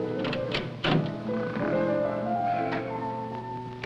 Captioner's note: mock Snoring